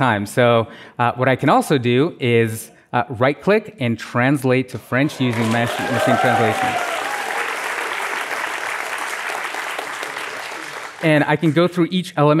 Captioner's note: applause